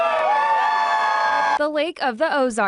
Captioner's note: cheering